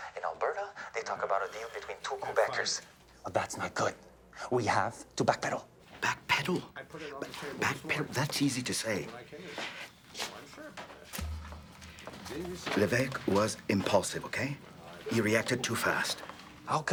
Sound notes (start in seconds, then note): 11.0 people chatter indistinctly; 11.1 soft tense music